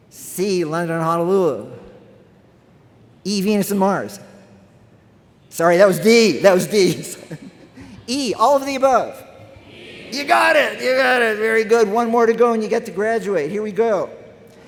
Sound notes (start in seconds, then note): 9.2 crowd